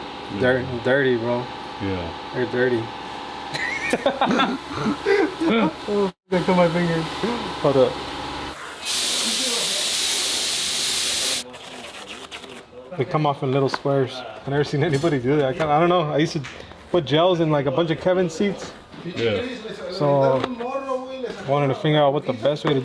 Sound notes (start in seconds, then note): 3.5 laughing